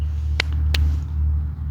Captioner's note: click, click